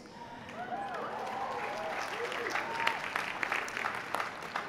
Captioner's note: applause